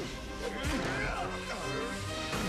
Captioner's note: warp grunts